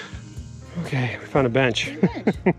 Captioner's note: laughs